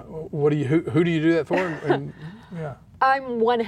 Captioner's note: laughs